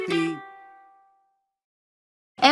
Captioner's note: abrupt silence